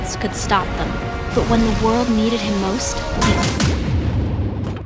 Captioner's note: sounds of terrible violence